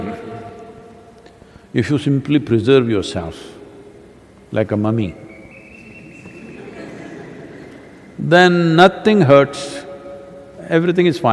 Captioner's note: laughter